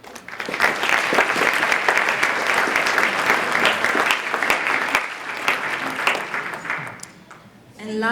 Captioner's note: applause